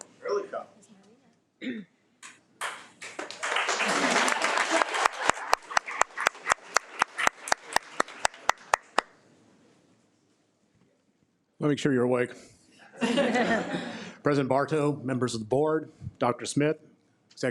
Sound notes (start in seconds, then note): 2.6 audience applauding; 13.0 audience laughing